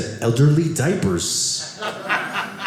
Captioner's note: audience laughing